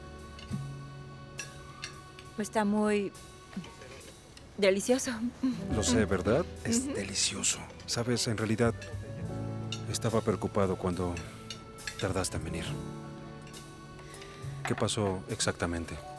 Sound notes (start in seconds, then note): 5.2 Resopla